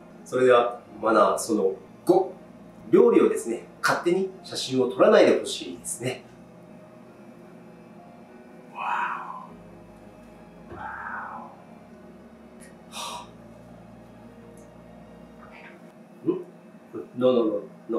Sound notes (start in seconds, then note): 12.9 deep sigh